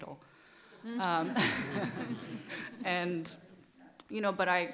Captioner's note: laughter